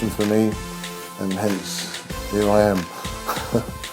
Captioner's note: laughs